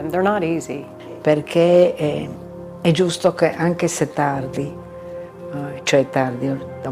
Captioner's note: speaking in foreign language